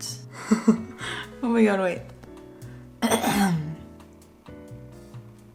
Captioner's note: laughs; clears throat